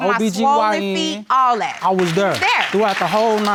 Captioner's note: clapping